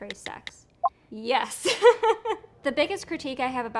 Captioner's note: laughing